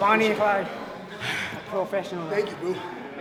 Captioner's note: breathing heavily